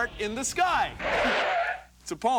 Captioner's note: tires screech